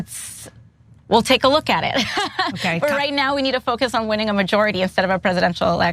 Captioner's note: laugh